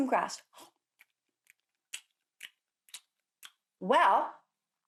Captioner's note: munching